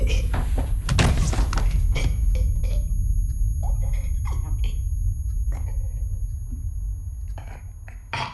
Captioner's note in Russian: стук об пол, стоны, тихий женский плач